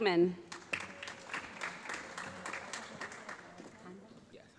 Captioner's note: applause